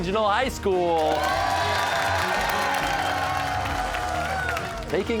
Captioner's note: cheers and applause